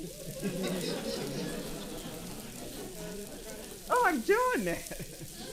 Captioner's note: audience laughing; audience chuckling